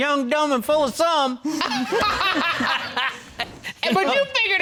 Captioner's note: all laughing